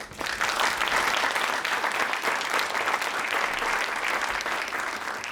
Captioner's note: applause